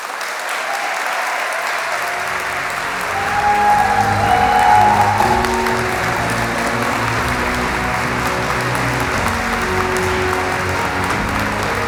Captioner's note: applause